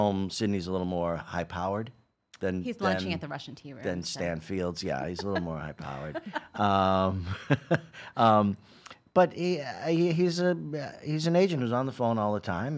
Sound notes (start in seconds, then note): 5.0 laughing